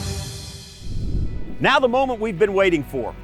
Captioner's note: graphics whooshing